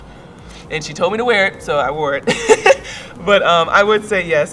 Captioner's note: chuckles